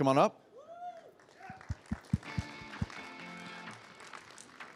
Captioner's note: audience applauding